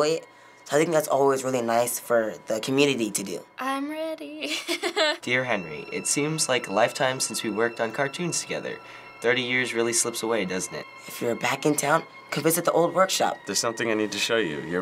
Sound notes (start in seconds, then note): 4.4 chuckles